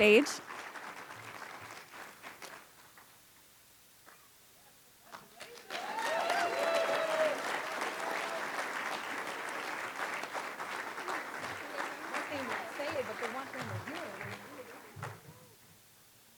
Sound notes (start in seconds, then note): 3.2 applause; 13.2 away from Microphone